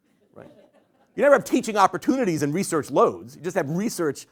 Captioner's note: laughter